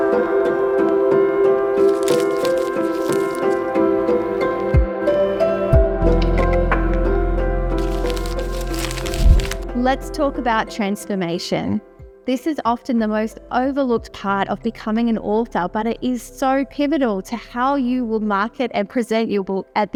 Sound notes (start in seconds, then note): 1.8 paper rustling